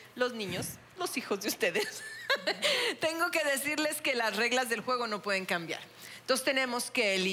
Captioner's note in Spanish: Ríe